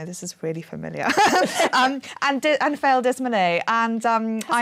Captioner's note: laughing